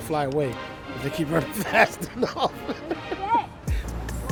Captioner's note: laughs